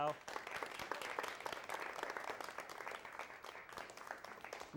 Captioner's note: applause